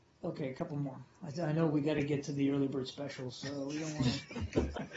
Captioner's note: laughter